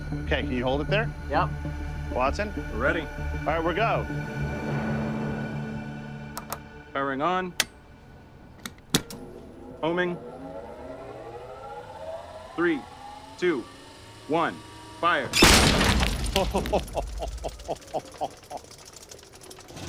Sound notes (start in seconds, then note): 15.3 metal clanking; 16.2 laughing